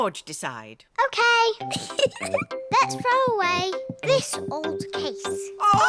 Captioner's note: giggles